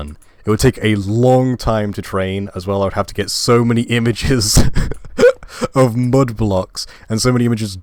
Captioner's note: laughing